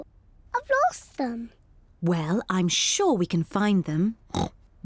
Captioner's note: oinks